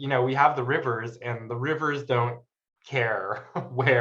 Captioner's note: chuckles